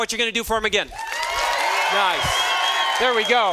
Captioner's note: students cheering